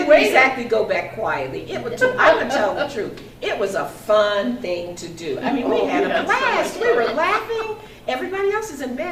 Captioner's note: man laughs